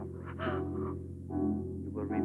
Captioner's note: gasping